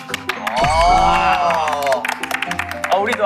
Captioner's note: applaud